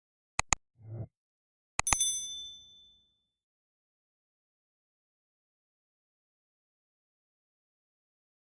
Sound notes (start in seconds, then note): 1.8 bell rings